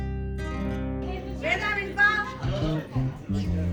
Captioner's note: distant voice